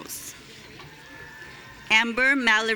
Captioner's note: audience cheering